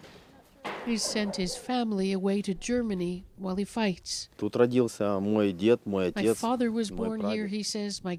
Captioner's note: speaking Foreign Language